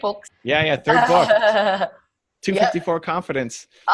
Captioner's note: laughing